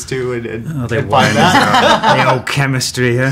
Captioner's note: laughing; burst it laughter